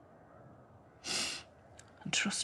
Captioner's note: sniffles